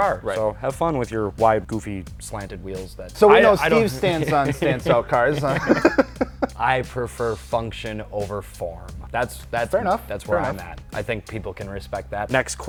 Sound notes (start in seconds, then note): 5.5 laugh